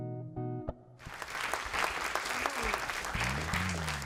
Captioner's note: applause